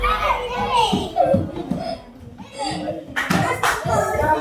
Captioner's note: children's chatter